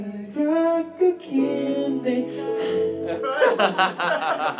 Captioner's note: sighs